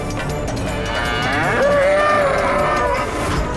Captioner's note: bull grunts